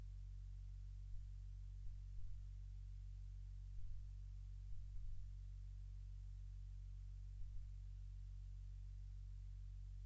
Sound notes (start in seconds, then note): none